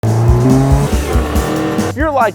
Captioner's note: car engine roaring